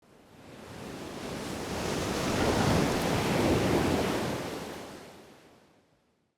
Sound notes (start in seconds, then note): 1.9 waves crashing